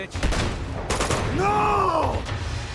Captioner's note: gunshots booming